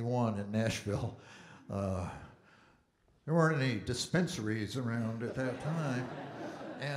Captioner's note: audience Laughing